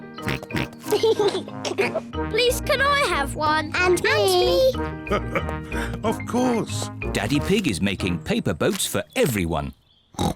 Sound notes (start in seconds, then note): 0.0 chuckles; 0.3 snorts, chuckles; 5.0 laughs